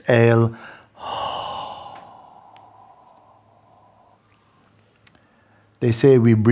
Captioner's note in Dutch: lange uitademing